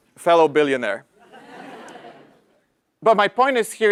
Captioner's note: laugh